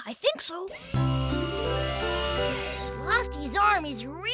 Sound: hydraulic Whir

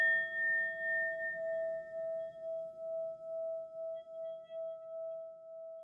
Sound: bell dings; mysterious hum reverberating

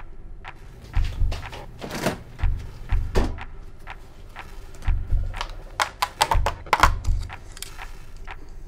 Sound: lid being popped off; sound of a fridge opening

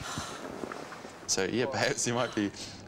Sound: exhales

